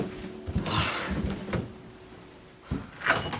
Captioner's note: sigh